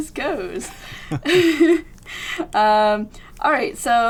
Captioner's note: laughter